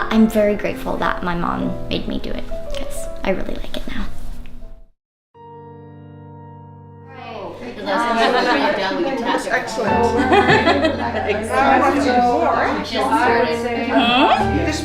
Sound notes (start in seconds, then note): 4.7 slower piano music; 7.3 women chattering; 10.1 woman laughing